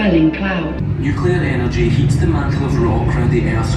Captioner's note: voiceover